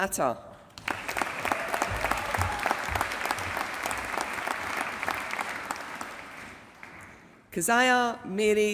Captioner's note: applause